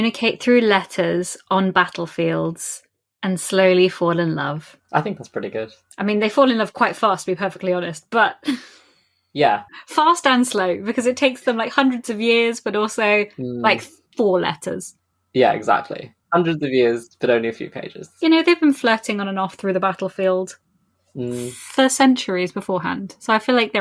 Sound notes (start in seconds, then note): 8.1 laughs